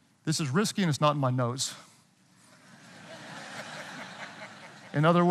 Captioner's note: audience laughing